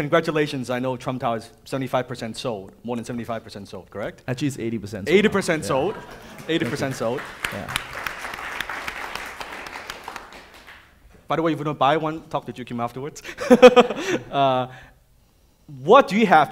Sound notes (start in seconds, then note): 5.4 audience applauding; 13.3 laughs